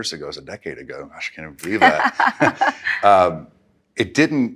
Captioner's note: laughs